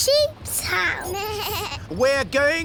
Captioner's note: suzy bleats